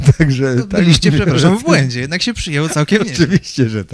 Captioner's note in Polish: śmiech; śmiech